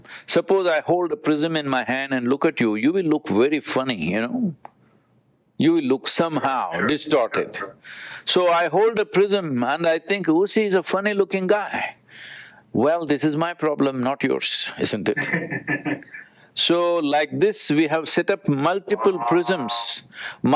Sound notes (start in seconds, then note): 15.1 Vusi laughs